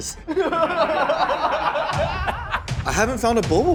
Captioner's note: laughter